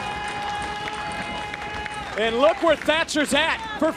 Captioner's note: crowd cheering